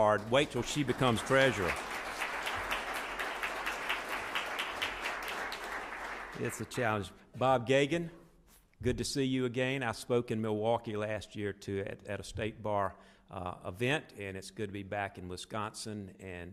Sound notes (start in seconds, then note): 2.3 audience applauds